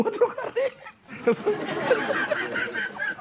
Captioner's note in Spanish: Risas